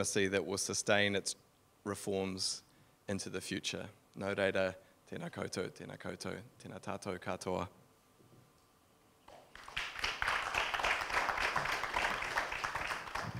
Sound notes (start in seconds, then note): 4.3 speaking in foreign language; 9.3 audience clapping